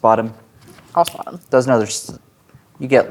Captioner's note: snaps fingers